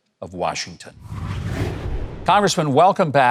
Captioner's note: transition whooshing